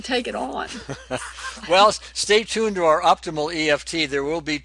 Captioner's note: laughs